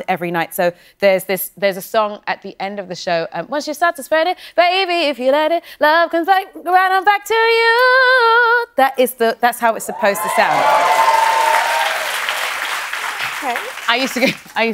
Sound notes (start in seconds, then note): 9.9 cheering and applause; 13.7 laughing